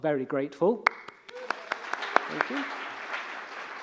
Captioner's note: audience applauding